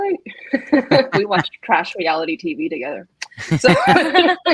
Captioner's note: laughs; everyone laughs